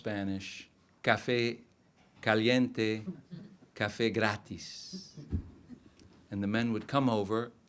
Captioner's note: speaking in foreign language